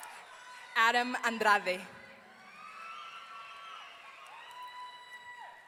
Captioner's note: audience cheering